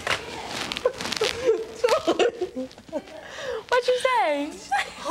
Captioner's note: both laughing